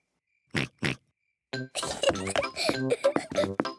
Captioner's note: oinks; giggles